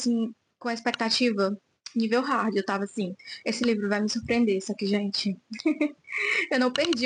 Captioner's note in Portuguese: risadas